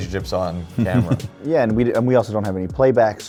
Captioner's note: laughing